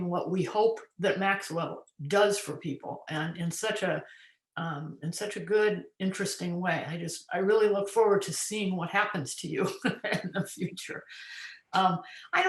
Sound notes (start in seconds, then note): 10.3 laughs